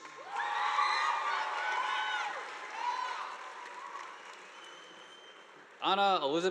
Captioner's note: audience applauding; students cheering